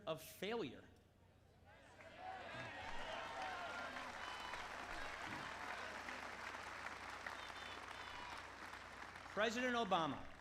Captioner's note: applause